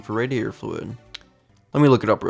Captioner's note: lip smack